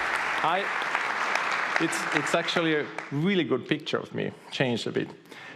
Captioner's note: audience applauding